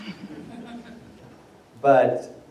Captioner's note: laughter